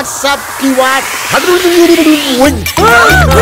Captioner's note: Speaking gibberish; Screams